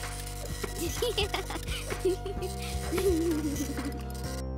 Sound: giggling

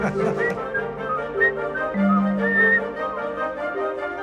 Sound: laughter; whistling

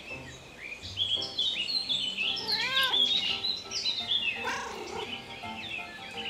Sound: Milo meows

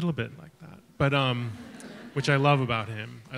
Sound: audience chuckles

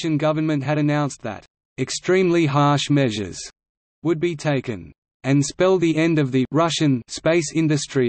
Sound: Russian

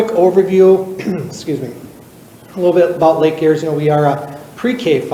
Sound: clears throat

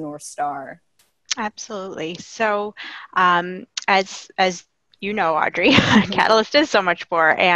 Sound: laughing

